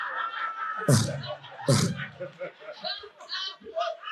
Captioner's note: audience laughing